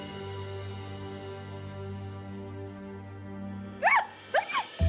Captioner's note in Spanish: Sollozos